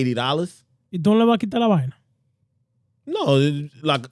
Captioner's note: speaking In Foreign Language